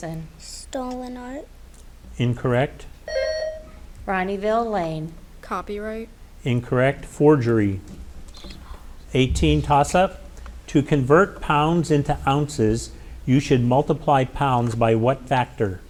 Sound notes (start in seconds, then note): 3.0 buzzer ringing